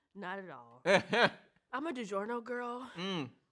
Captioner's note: laughs